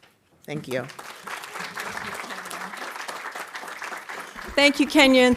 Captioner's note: audience applauding